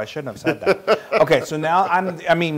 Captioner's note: laugh